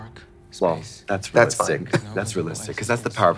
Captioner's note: laughs